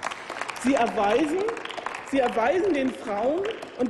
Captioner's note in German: Applaus